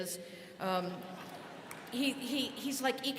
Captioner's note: students laughing